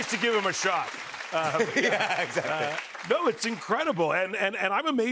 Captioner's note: laughs